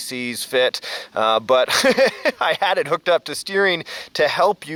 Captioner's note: laughs